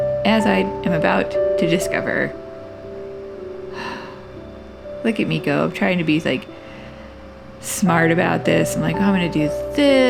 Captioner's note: sigh